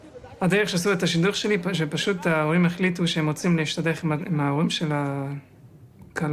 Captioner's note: young man speaking in foreign language